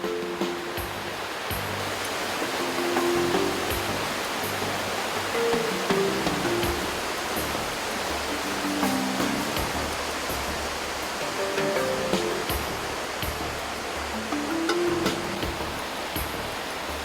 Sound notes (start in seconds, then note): 0.0 happy music; 4.2 sound of waterfalls